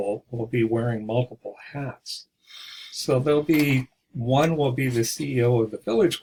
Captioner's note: exhale sound